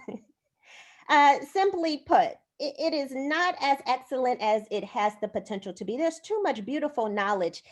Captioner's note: laughter